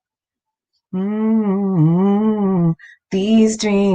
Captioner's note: hums